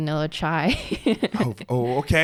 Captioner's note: laughs